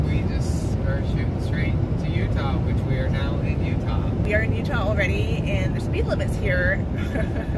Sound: laughs

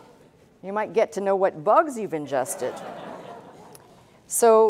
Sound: laughter

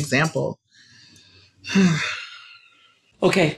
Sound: sighs

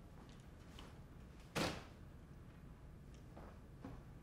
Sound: loud thud

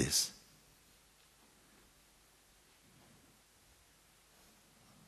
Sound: silence

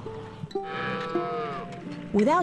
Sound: cow mooing

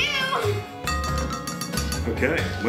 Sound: glass clinking

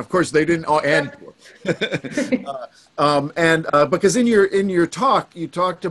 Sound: laughs

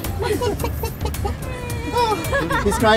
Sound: crying sounds

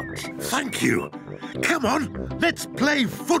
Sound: none

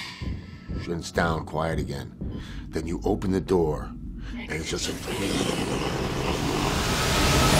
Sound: rumbles loudly; screeching engine matching the BART train

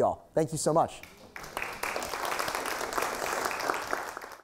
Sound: applause

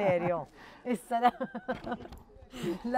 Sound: laughs

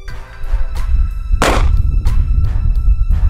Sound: gun fires

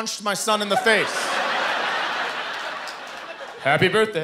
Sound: laughter

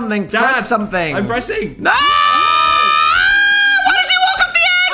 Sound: screaming

